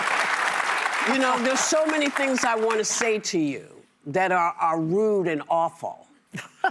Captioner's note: laughter and applause